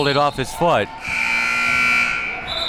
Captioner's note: buzzer sounding and whistle blowing; whistle blowing